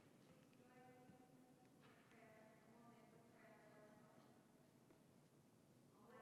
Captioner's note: talking off-microphone